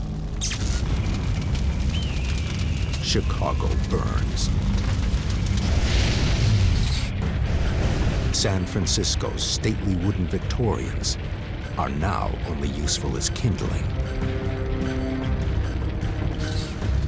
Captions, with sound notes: [buzzing and crackling] [bird calls] Chicago burns. San Francisco's stately wooden Victorians are now only useful as kindling.